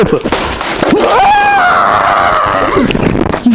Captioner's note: a heart-rending scream